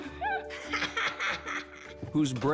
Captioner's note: laughs